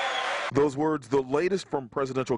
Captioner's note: cheering